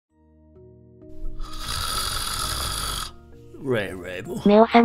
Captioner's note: snoring